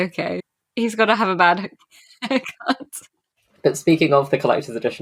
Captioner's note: laughing